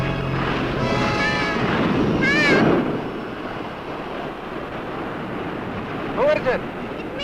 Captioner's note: waves roaring